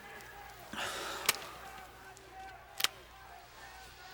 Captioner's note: sighs